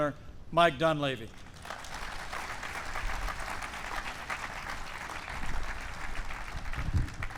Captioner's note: applause